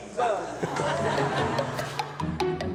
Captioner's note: audience laughter; funny instrumental music